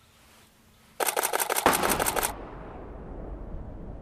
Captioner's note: multi burst clicks